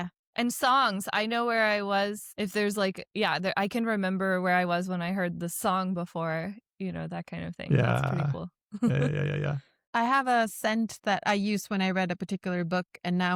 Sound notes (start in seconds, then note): 8.8 chuckles